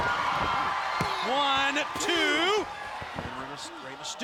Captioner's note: hand pounding